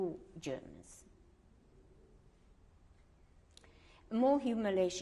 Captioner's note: pauses for 3 seconds